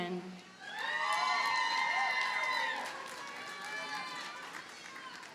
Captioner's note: audience cheers and applauds